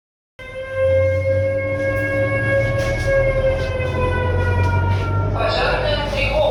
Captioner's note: fire Alarm